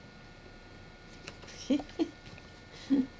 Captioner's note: laughs